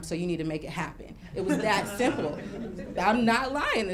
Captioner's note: laughing